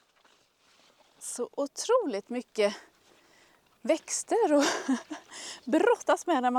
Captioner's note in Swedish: skratt